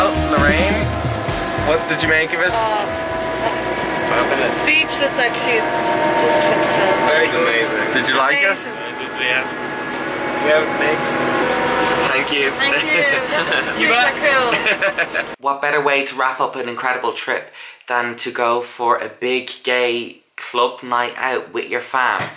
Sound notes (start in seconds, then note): 14.3 laughter